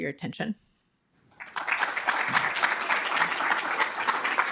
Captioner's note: audience applauding